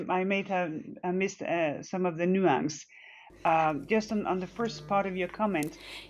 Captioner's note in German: Spricht Englisch